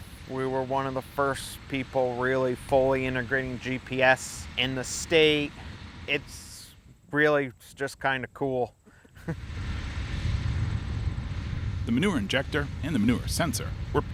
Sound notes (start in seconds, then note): 8.8 laughs; 9.3 tractor hums